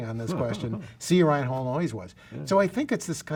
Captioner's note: murmurs